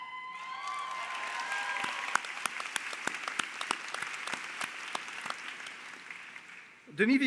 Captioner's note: Applaudissements